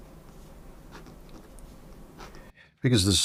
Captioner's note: silence